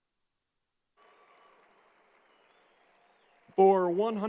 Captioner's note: crowd applauding